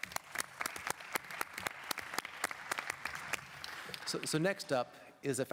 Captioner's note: applause